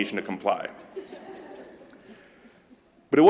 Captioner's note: laughter